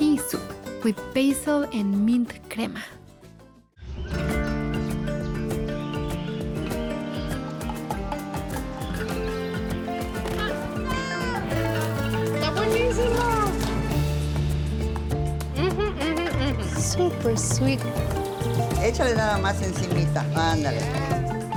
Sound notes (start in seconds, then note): 3.7 birds chirping; 10.2 child shouts; 18.8 woman speaks Spanish